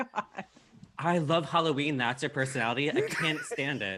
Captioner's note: laughs